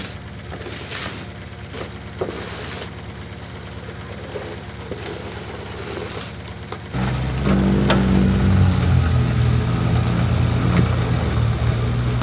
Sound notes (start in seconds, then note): 7.5 vehicle rumbling